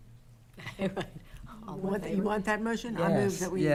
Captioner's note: laughing